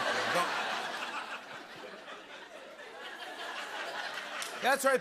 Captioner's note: laughter